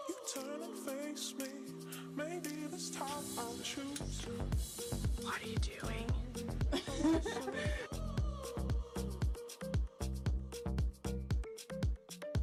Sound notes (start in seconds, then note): 6.7 students laughing; 9.0 vibrant music